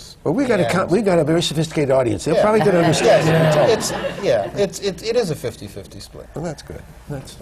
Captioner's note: laughter